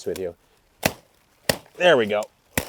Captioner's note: machete chops